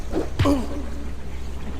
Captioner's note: cling clang; thud